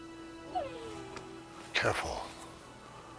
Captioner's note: dog whines